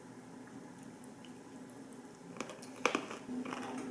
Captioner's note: crunchy